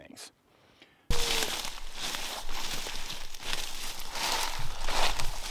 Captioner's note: leaves rustling